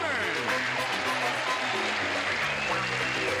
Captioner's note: applauding